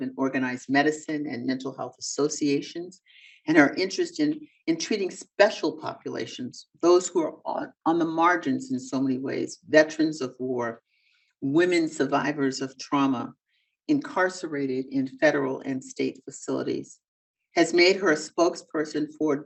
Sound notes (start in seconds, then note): none